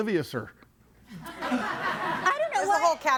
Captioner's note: audience laughing